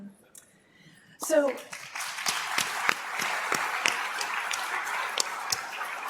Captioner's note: applause